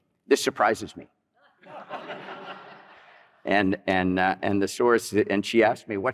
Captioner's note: laughter